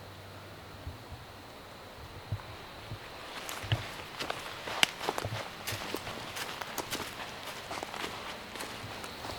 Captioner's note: walking noise